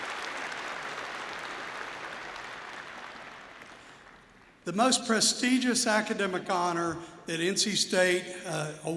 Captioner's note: applause